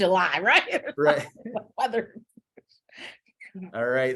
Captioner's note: chuckles